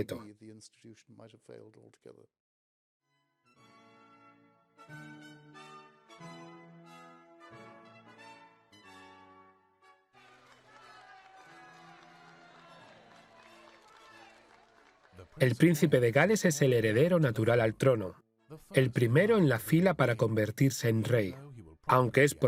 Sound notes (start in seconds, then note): 3.0 dramatic music; 10.1 crowd cheering; 14.9 voiceover